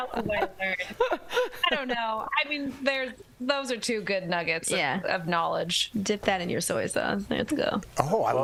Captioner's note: laughter